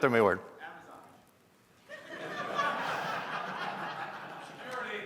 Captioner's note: laughter